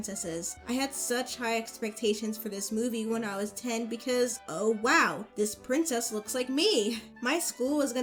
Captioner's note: laughs